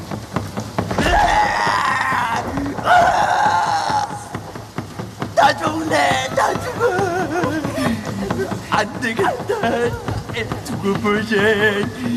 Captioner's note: screams in defeat